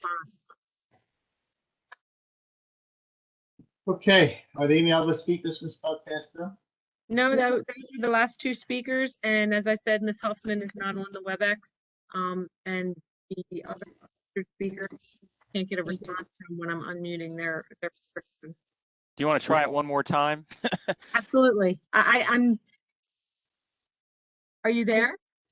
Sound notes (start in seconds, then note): 20.4 laughter